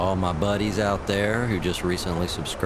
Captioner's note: radio chatter